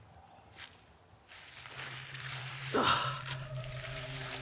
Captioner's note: leaves rustling; eerie music; Arawn groaning